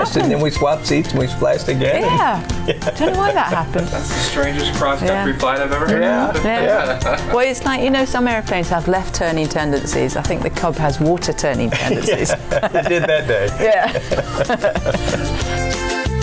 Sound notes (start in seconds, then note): 12.1 laughing; 14.1 laughing; 16.0 upbeat music